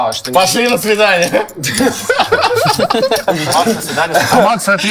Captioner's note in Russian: Смех